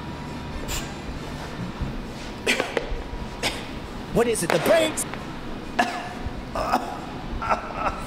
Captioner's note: coughing